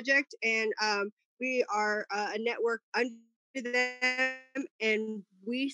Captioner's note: murmurs